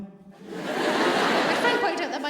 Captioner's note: audience laughs